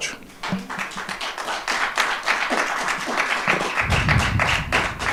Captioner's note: audience applauding